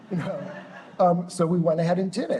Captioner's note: laughter